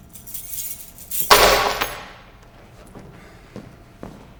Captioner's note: keys jingle and slam to the floor; footsteps exiting